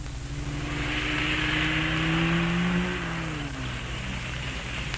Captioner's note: engine rumbling